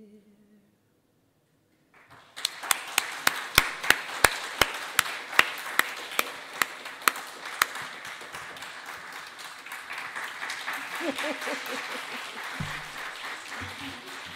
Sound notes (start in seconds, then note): 2.5 audience applauding